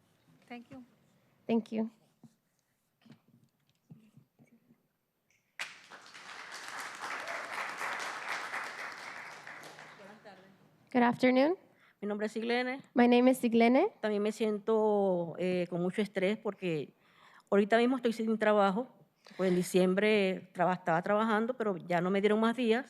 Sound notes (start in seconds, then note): 7.3 applause